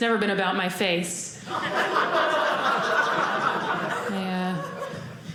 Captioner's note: audience laughing